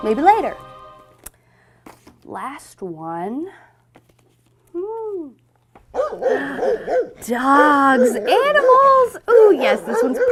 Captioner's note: barking